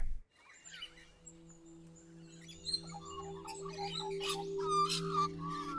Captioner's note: birds chirping